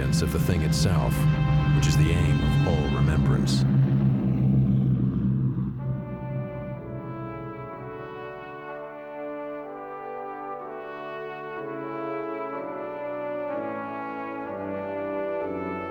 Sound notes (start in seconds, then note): 4.1 plane engines rumbling; 6.1 dramatic orchestral music